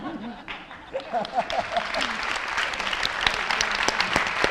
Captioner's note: audience and panelists laugh; audience applauding